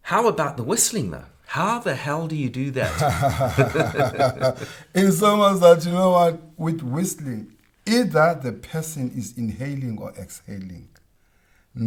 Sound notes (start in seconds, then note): 2.8 both laugh